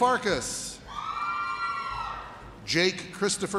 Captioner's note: audience cheers